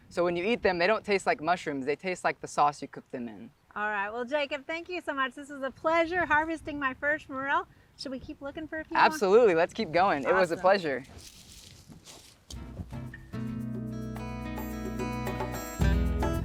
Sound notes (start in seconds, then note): 11.7 leaves crunching; 13.0 gentle upbeat music